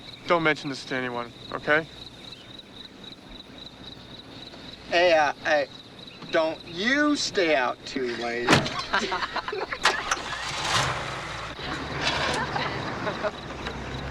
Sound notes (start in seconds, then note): 8.0 teenagers laughing; 9.6 car starting